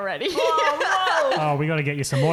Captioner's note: laughing